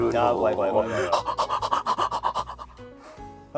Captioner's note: heaving breathing